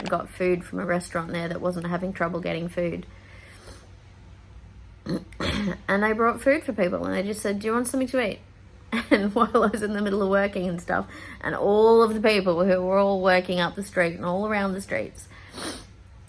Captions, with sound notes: got food from a restaurant there that wasn't having trouble getting food. And they brought food for people and they just said, 'Do you want something to eat?' And [laughing] while I was in the middle of working and stuff and all of the people who were all working up the street and all around the streets. [sniffs]